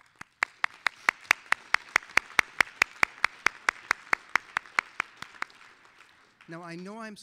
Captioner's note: applause